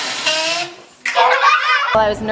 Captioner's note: children laugh; fart; children laugh